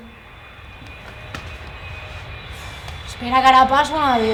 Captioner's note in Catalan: Remor d'avió